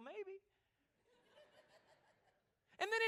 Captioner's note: laughter